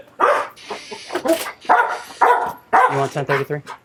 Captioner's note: barking